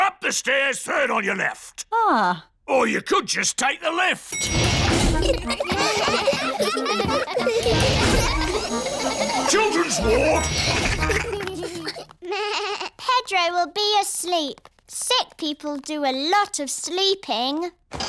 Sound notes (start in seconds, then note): 4.3 elevator bell dings; 4.8 all giggling; 11.0 elevator bell dings; 12.4 bleats